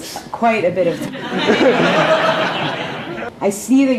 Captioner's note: laughter